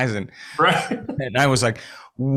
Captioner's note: laughing